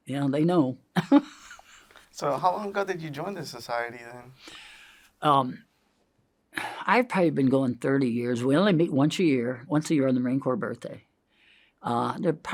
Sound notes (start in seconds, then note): 1.0 laughs; 4.3 inhales